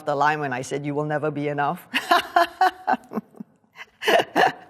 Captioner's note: laughing